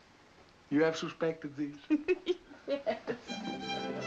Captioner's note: laughs